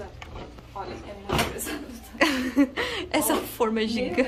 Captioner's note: laughs